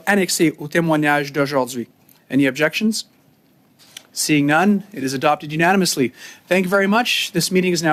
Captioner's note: speaking French